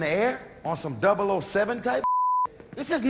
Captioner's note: beep